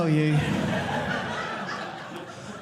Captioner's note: audience laughing